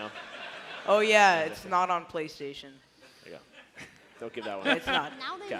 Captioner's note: laughter